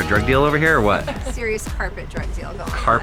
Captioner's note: laughing